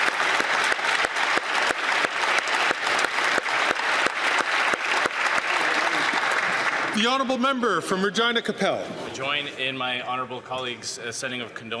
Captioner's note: applause